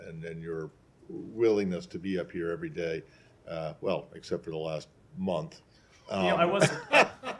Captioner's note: laughter